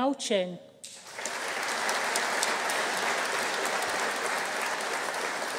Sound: audience cheering

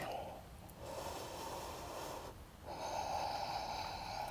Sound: inhales deeply

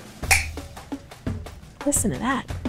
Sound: grommet tool clicks loudly

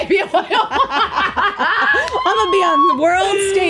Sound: both laughing

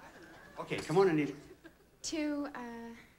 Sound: audience laughing

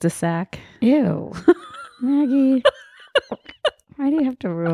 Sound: laughing

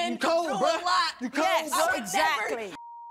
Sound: beep

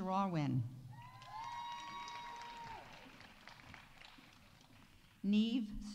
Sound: audience cheering; audience applauding

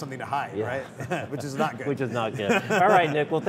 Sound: laughter

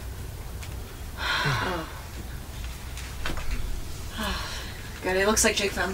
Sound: Marla exhales

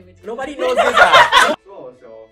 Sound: laughs

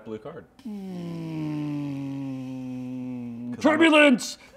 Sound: making sound of airplane engine flying

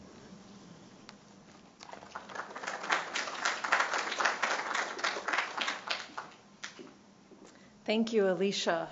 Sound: applause

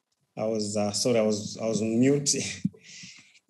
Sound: laugh

